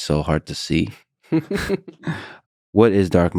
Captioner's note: both laughs